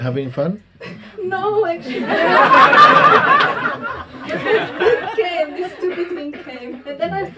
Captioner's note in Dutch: gelach